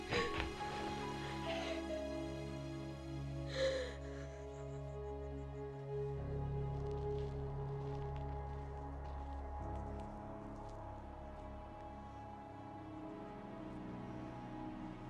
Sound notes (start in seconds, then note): 0.0 sobbing; 1.0 somber music